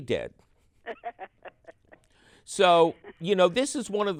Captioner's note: laughs